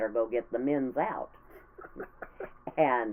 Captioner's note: laughing